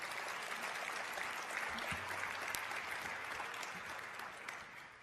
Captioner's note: applause